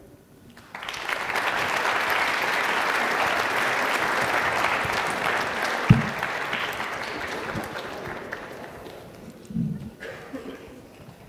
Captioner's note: applause